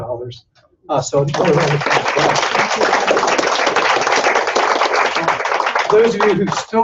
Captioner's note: applause